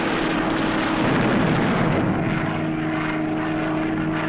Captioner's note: booming